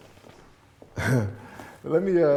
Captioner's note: chuckling